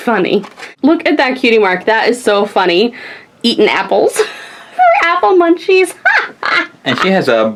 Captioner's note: laughs